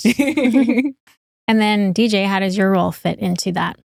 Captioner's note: laughing